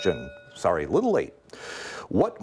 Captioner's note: bell ringing